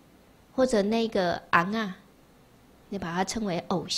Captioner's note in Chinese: 台語